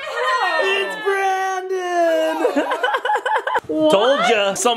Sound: laughs

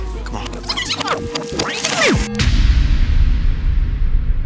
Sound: rewind sound effect

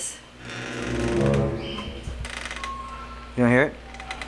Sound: door creaks

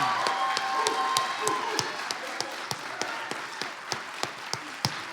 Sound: audience applauds

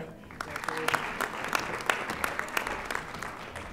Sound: audience applauding

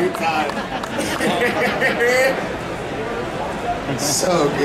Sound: audience laughing

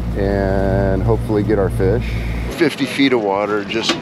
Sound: waves lapping

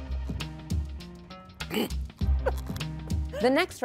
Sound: laughing

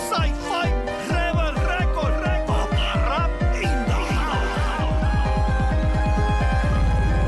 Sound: continues speaking Spanish

